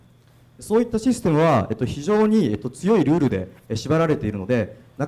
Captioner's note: speaking foreign language